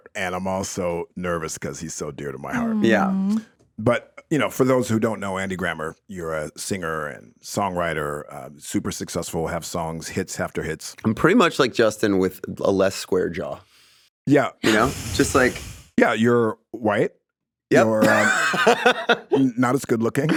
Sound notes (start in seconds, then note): 17.9 laughs